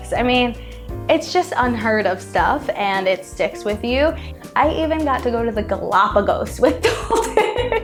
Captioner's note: laughs